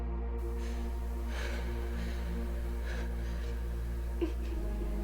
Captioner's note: breathes heavy